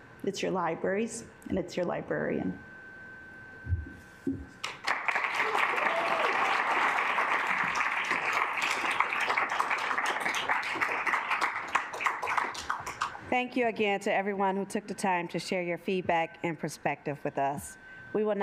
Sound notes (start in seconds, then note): 4.6 assembly clapping; 4.8 assembly cheering